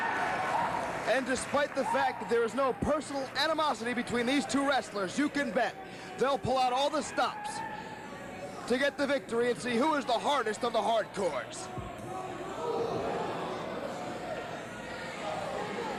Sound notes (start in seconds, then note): 3.0 fans chanting